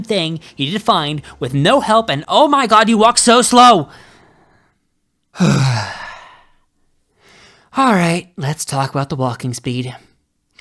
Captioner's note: sigh